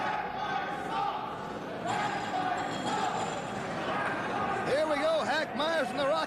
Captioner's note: fans chanting